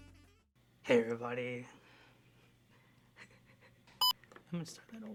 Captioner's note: tired laugh